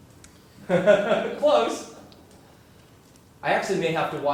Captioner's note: laugh